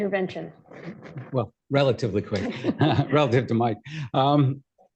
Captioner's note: laughter